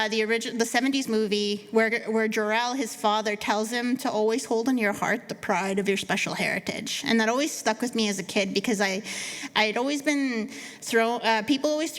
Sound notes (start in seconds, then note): none